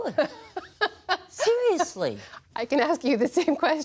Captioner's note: laughter